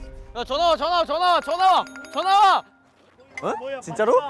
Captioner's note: newest phone rings loudly